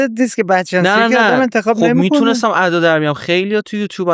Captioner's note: laughs